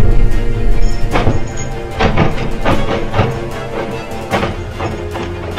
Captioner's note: doorknob rattling; dramatic music